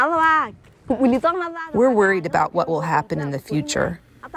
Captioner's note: through translator